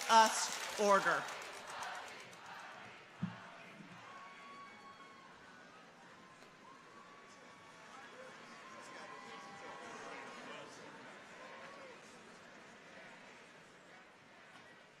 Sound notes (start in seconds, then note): 2.9 people chanting distantly; 3.9 people cheering distantly